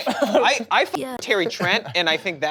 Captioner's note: beep